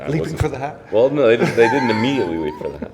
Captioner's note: laughs